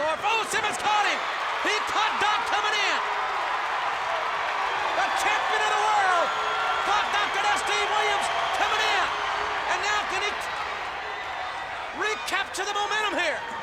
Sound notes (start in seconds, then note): 1.3 audience cheers